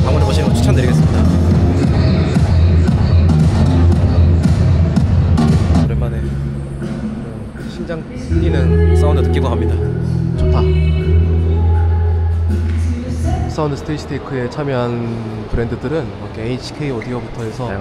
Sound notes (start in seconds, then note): 2.6 overwhelming sound that makes your heart pound